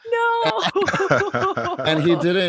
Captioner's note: all laughing